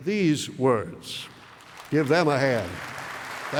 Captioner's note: applause